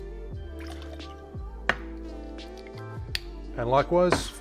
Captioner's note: liquid sloshing